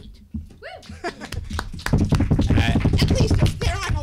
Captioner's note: woman cheers; applauding